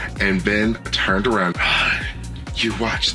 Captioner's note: gasp